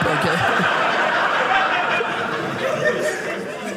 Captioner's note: audience laughing